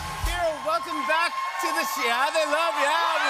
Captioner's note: cheers and applause